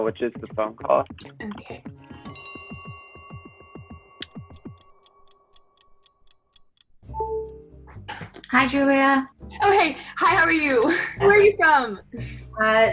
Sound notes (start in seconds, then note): 2.3 bell chimes; 4.2 clock ticking; 7.2 phone chimes